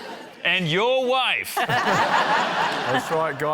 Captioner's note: laughter